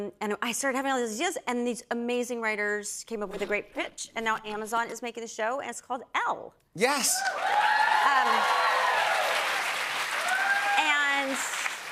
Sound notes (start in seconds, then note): 7.0 cheers and applause